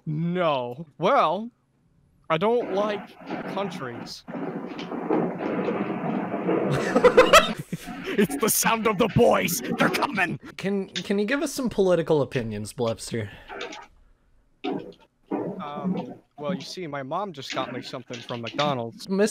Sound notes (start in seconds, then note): 4.1 white noise; 6.6 laughs